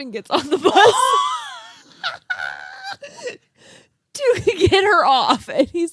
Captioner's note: girls laughing